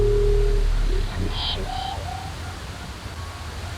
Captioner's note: deep low frequency vibration